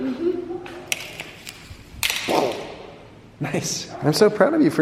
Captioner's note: car clattering